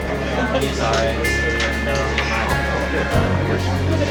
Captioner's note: crowd chatters